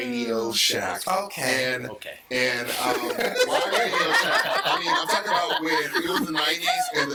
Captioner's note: all laughing